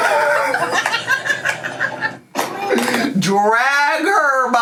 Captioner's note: laughs